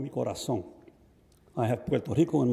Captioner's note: speaks in Spanish